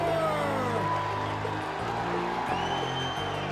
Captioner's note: crowd cheering